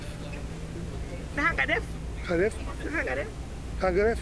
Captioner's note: speaking in foreign language